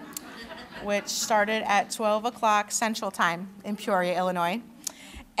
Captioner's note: laughter